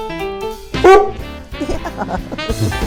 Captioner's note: dog barks